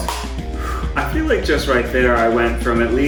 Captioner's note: sigh